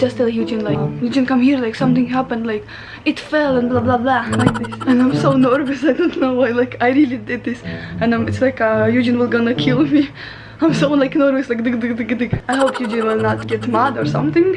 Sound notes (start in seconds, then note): 12.5 rapid sound effects